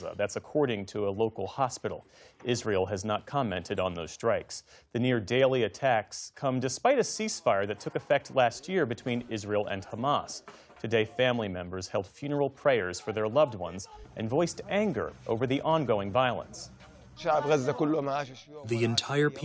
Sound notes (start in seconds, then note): 18.0 through translator